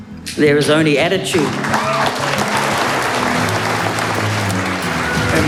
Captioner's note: cheers and applause